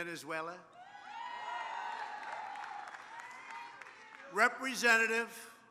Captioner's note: applause